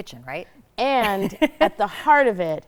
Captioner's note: chuckles